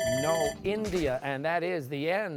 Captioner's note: timer sounding